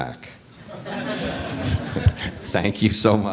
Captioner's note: audience laughs